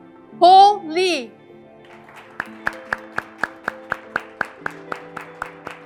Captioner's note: graduates clapping